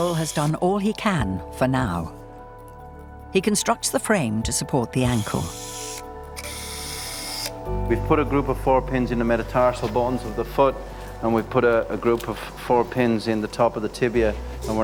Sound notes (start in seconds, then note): 5.1 surgical instrument humming